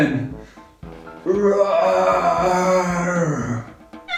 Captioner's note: roaring